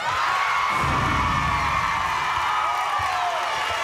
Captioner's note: crowd cheering